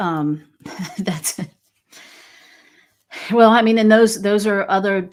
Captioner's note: laughs